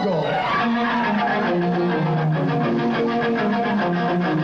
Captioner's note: crowd cheers